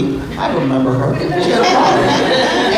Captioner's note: laughter